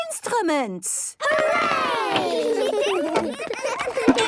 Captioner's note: excited giggling